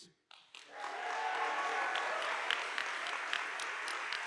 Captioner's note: audience applauding